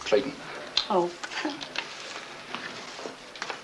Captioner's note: chuckles